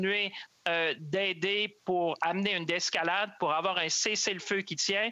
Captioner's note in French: voix de l'interprète